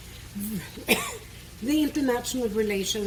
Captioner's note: coughs